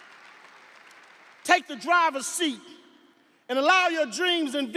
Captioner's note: audience applauding; audience cheering